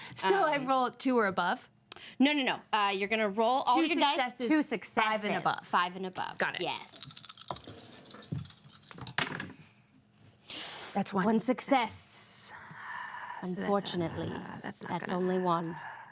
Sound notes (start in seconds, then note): 8.2 dice rattle